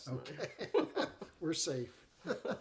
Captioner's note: chuckling